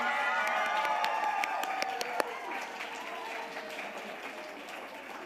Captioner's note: audience applauding